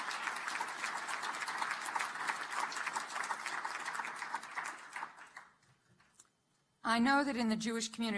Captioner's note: applause